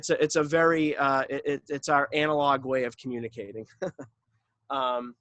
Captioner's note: chuckles